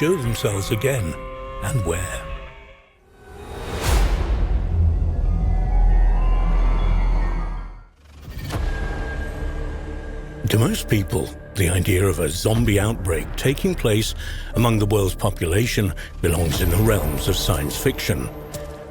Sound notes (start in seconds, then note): 3.3 air whooshing; 4.2 dramatic music; 8.0 suspenseful music